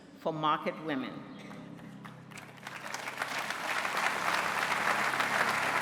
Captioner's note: applause